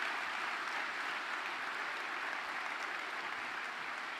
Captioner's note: applause